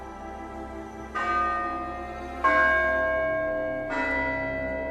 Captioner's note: bells ringing